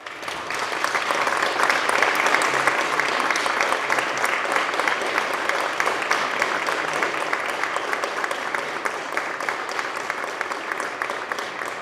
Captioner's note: applause